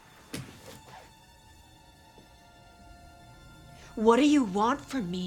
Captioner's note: pensive music continues; feet thudding